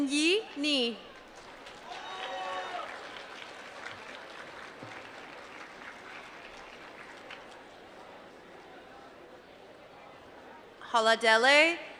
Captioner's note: applause